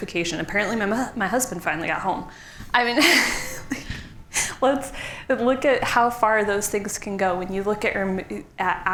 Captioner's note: laughs